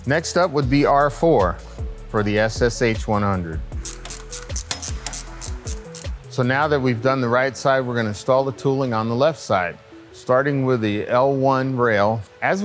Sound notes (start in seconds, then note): 3.7 wrench cranking